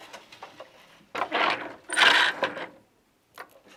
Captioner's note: noise of shuttle moving